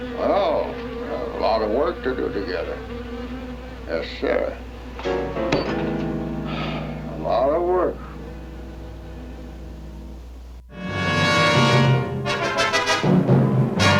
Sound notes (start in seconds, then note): 6.2 sighs; 10.7 dramatic music